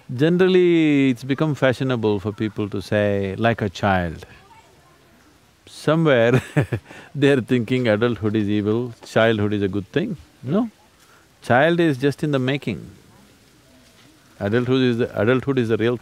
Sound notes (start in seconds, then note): 6.3 laughs